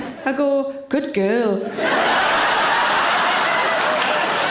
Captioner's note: audience laughing